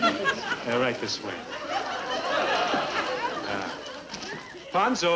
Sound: audience laughing

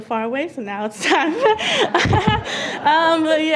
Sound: laughs

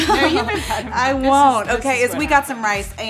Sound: laughter

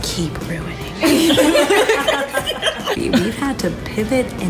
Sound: laughing

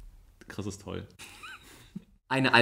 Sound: laughs

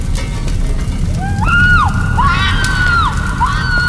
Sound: Denise screams

